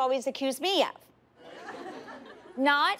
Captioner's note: laughter